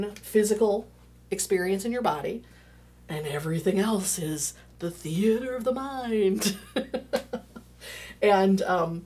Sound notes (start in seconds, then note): 6.4 laughing